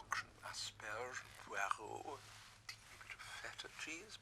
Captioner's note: speaking in foreign language